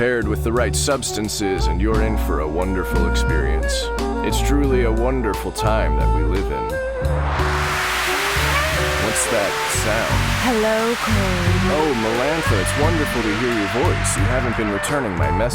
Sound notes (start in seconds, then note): 6.0 noise spike